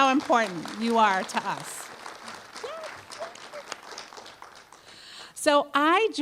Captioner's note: applause